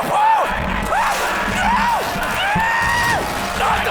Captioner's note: sounds of a struggle